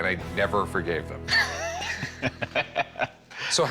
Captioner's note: laughs